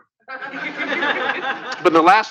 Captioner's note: laughter